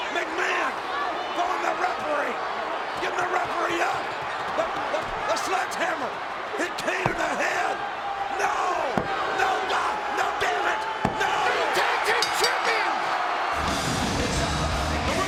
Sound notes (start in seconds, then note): 12.2 bell rings; 13.7 audience cheers